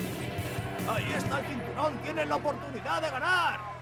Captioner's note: crowd cheering